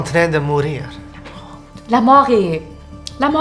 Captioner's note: Hoota whispers